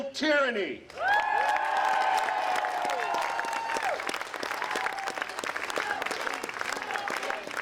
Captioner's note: applause